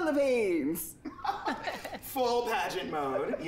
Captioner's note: Peppermint laughs